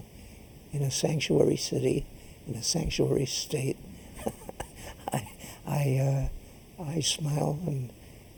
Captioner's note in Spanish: risas